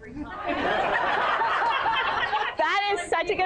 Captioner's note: laughter